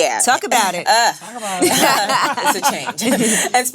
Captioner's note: laughs